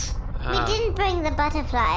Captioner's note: Pleck groans